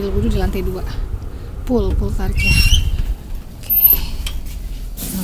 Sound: in Bahasa Indonesia

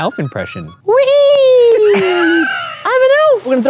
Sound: both wheeze-laughing

